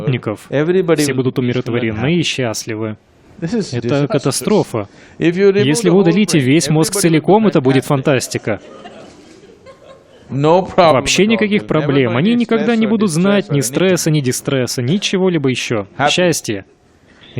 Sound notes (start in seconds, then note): 8.2 Смех